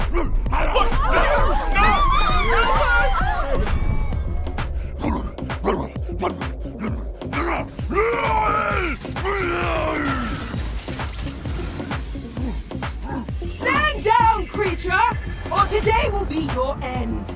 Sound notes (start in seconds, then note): 0.1 Mon-Gor gibbering; 0.6 crowd screaming; 5.0 Mon-Gor gibbering; 7.3 Mon-Gor roars; 10.5 ominous whooshing sound